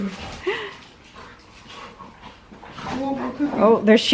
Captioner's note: heavy breathing and sounds of dogs playing